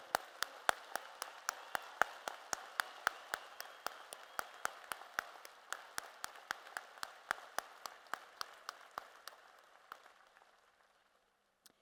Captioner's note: applause